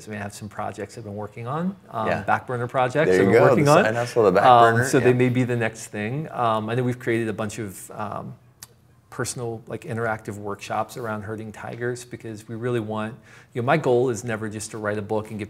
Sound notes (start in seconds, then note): none